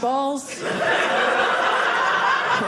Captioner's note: audience laughing